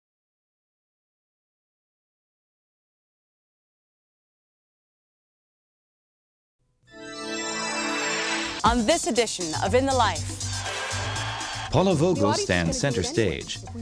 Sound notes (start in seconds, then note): 6.9 theme music; 10.6 cheers